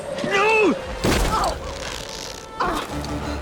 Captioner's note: Kelli grunts; body thuds; groaning